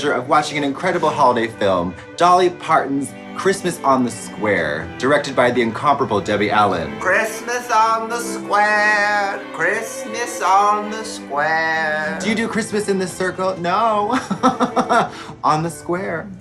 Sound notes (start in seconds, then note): 13.9 laughs